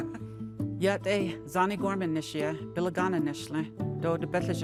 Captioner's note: speaking native language